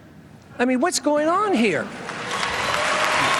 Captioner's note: applause